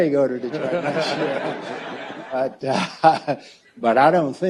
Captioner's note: audience laughs